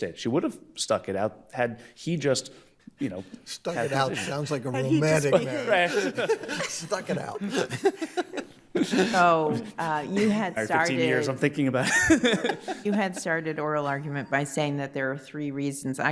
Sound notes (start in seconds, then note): 6.5 laughs; 11.8 laughs